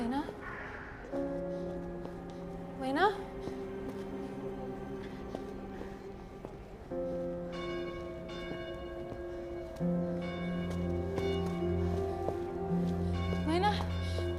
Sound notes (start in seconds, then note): 0.0 dramatic orchestral music; 8.2 bells tolling